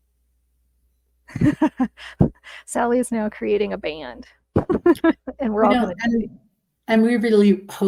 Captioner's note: laughs